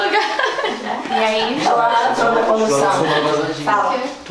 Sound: indistinct chatter

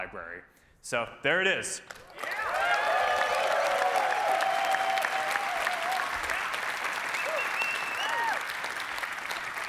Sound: cheering

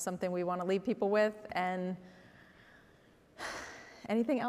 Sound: sighs

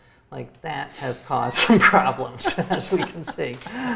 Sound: laughs

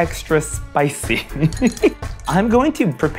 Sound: laughs

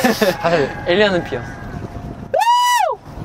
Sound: screaming

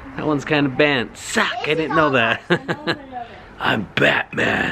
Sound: laughs

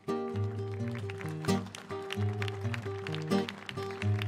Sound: applause

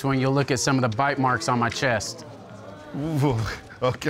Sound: audience groan

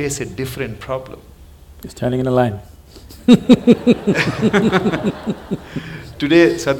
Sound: few Laugh

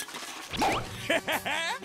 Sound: laughing

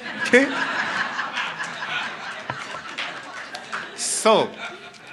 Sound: laughing, light applause

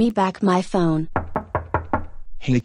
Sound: knock

